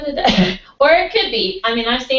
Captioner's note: laugh